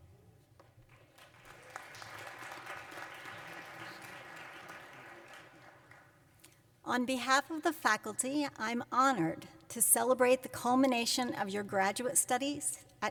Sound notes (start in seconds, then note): 0.6 applause